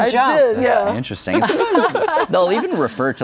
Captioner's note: guests laugh